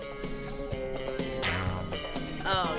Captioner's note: boing!